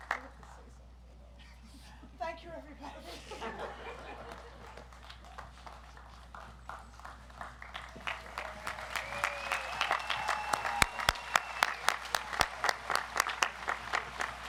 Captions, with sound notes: - I'd like to say something. Thank you, everybody. (audience laughs) (audience applauds)